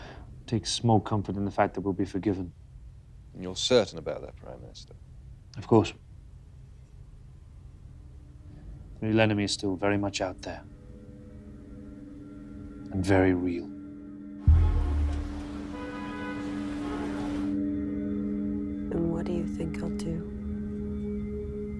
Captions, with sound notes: I take a small comfort in the fact that we'll be forgiven. - And you're certain about that Prime Minister? - Of course. The real enemy is still very much out there and very real. (car engines revving) (car horns honking) - And what do you think he'll do?